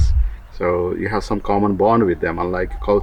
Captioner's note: none